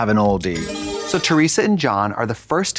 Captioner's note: bright chime